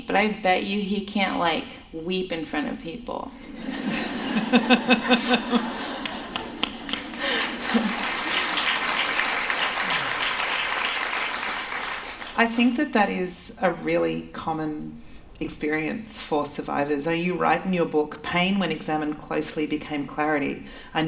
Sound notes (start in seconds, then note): 6.0 laughter; 9.2 applause